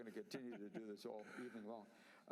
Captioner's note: laughter